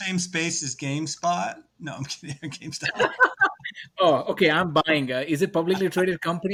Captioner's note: laughs